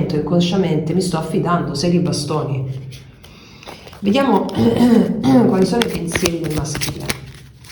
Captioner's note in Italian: schiarire la voce